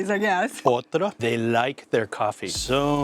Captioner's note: in Portuguese